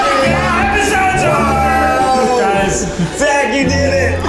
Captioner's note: screams